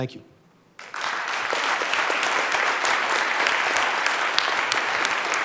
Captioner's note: applause